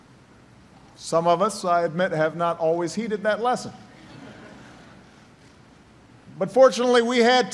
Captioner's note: laughter